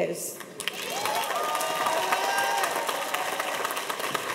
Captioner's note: audience applauds